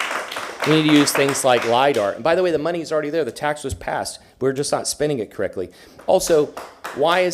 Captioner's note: applause